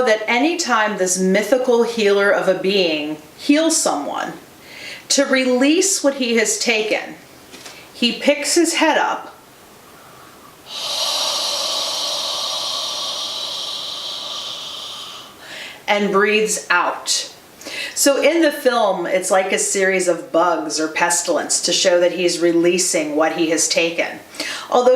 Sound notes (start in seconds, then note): 9.6 exhales